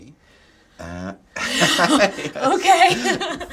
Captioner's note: laughter